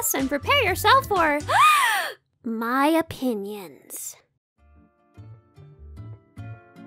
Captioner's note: gasp